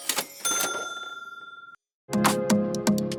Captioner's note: ding